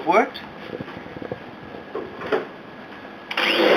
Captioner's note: vacuum starts